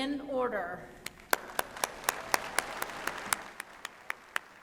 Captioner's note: applause